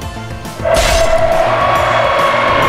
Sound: head slice SFX

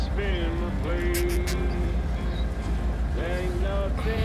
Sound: zip ties zip

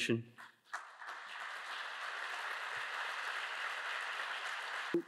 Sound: audience applauds

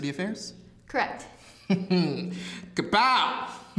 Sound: chuckles

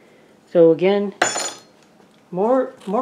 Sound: clank

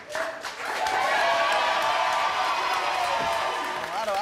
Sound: audience cheers and applauds

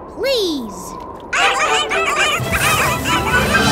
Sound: barking

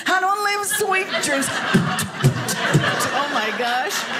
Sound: beatboxing

